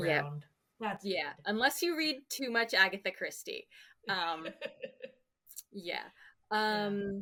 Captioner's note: laughs